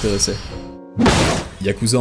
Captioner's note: slams desk